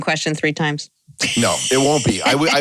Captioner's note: laughter